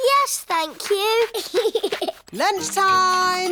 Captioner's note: giggles